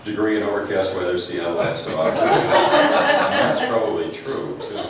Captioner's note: laughs